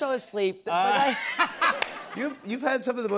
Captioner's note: laughter